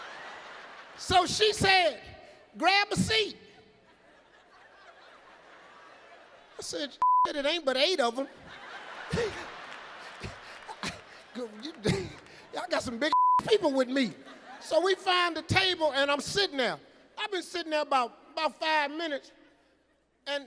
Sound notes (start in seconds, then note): 7.0 beep; 8.0 audience laughing; 8.2 Steve laughing; 13.1 beep